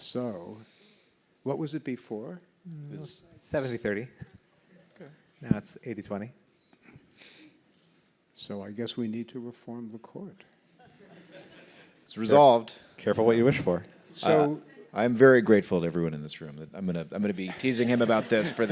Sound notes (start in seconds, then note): 10.8 laughs; 17.5 laughs